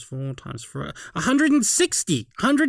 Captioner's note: gasp